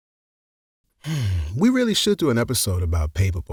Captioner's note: big sigh